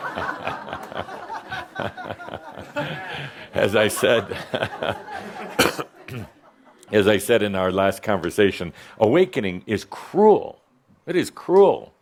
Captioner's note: laughter